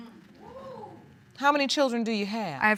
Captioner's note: audience exclaims